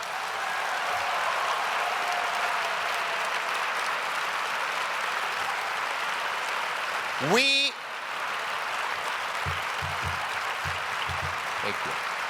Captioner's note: cheers and applause